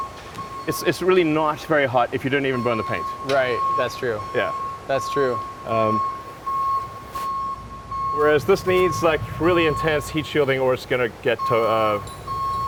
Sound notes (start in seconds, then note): 7.1 machine beeping